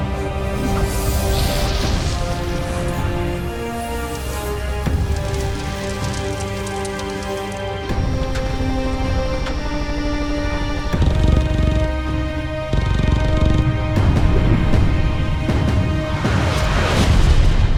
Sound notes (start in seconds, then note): 8.1 dramatic orchestral music; 8.1 helicopter blades whirling; 11.2 machine guns firing